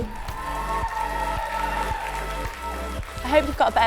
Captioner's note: applause